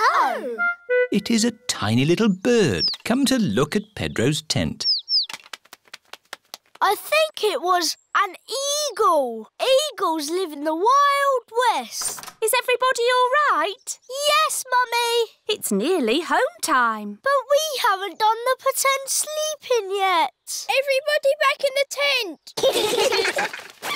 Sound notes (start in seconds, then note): 4.4 tweeting; 22.6 all giggling